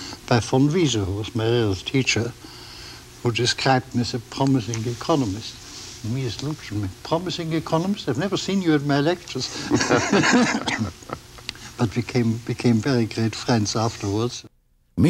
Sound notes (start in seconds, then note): 9.5 laughter